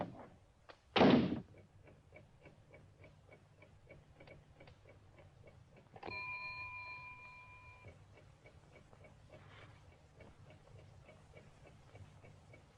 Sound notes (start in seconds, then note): 6.1 bell dings